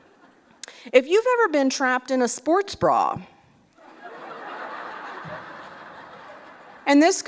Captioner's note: laughter